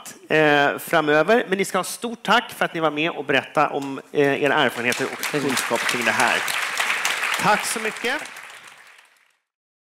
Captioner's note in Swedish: applåd